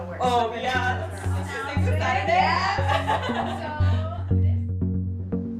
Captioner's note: laughter and banter